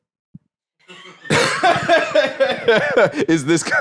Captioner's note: laughs